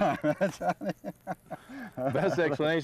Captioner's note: lagughter